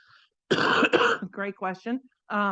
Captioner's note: coughing